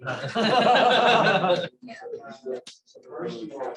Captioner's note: laughter